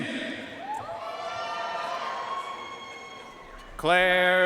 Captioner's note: audience cheering and applauding